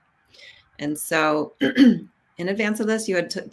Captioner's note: clears throat